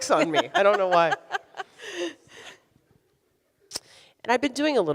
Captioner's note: laughs